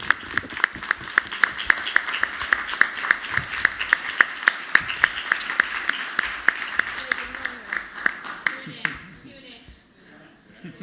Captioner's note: applause